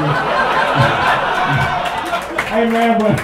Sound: laughter

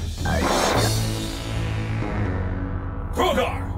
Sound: ominous synth music; screen buzzes

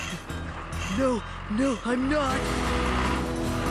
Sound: panting

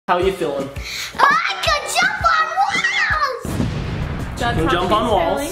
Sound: explosion effect

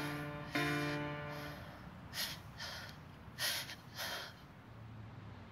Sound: heavy breathing

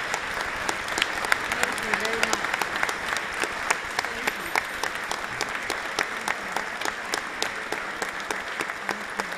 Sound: applause

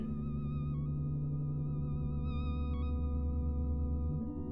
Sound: electronic humming

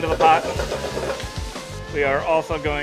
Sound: food sizzling

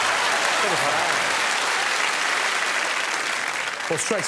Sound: applause

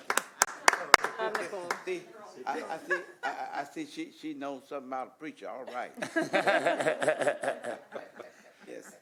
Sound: laughter; applause

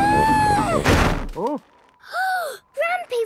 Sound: snowy crashing

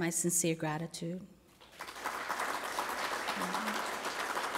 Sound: applause

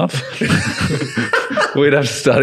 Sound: laughing

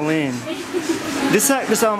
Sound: laughs

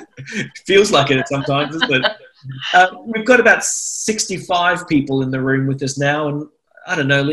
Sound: laughter

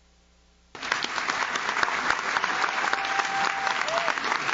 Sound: audience claps

